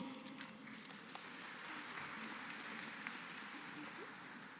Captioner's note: applause